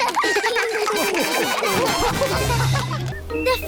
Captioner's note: all laugh